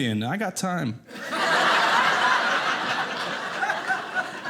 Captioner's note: audience laughing